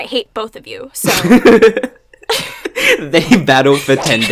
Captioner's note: laughs